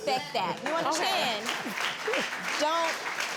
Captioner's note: audience applauding